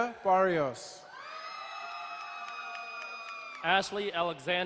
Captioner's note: crowd cheering and applauding